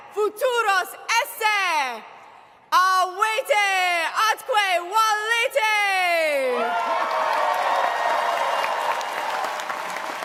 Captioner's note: cheers and applause